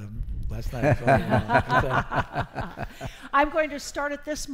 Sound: laughing

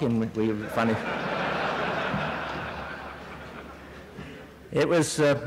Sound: laughter

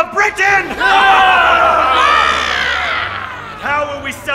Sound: cheering

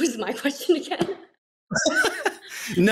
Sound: laughter

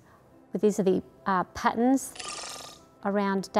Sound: electronic camera whooshing

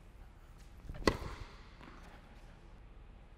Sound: thwack

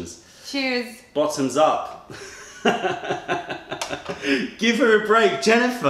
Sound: laughter

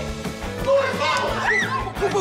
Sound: screaming

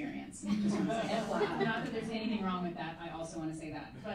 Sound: laughing

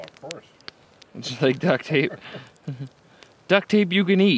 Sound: chuckles

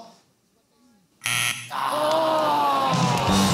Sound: groaning

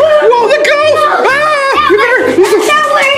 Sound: yelling

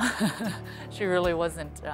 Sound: laughs

